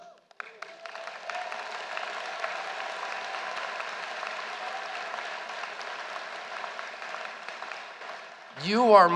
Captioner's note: applause